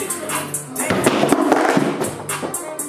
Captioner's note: ball thuds